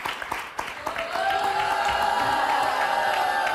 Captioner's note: applause; in Unison